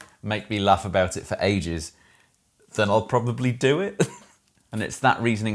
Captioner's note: chuckles